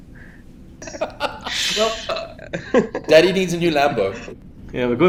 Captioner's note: laughs